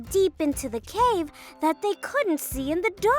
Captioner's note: none